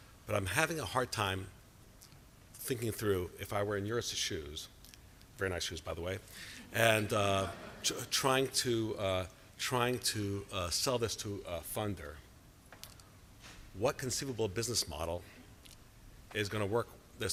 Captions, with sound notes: But I'm having a hard time thinking through, if I were in your shoes. Very nice shoes by the way. [LAUGHTER] Trying to sell this to a funder. What conceivable business model is going to work?